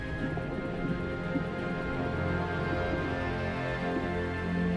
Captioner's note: bubbling